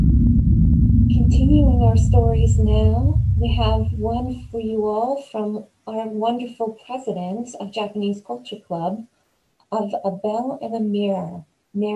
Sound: spooky sound transition

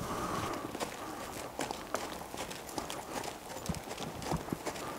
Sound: horse trotting

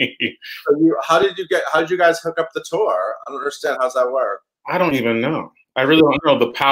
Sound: laughs

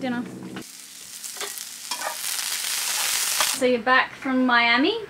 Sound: onions sizzle

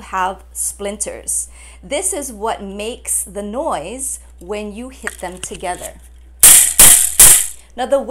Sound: bamboo noise

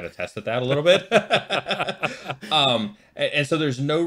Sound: laughing

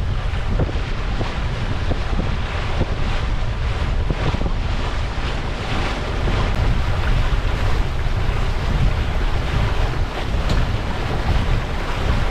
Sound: wind and wave noise

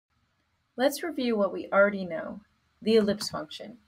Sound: voiceover

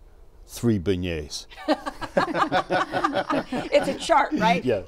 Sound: laughter

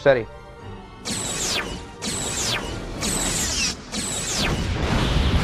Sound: explosion

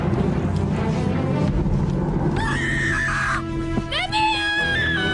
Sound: kid Screaming

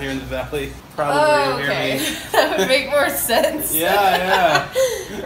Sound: laughing

